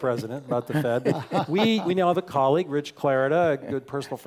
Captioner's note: laugh